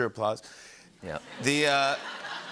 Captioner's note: laughter